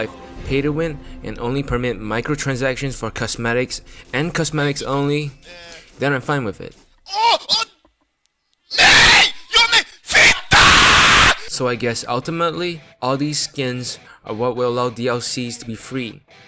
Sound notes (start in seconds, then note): 6.9 oooh; 8.7 fucking screams